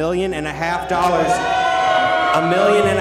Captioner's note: crowd shouting